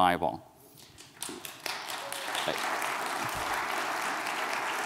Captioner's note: audience clapping